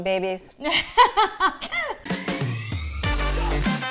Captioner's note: laughing; upbeat music